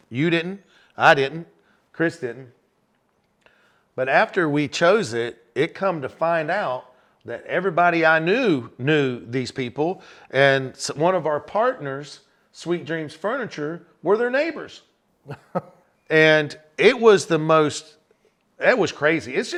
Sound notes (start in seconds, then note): 15.2 chuckles